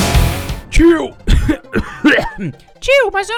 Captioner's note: coughs